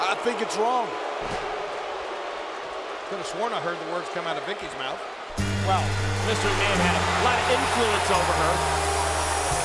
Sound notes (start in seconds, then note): 1.5 audience booing; 8.9 audience cheering; 8.9 cheerful upbeat music